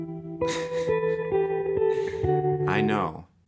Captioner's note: mellow music; chuckling